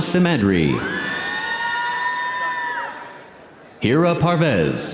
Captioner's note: audience cheering; audience applauding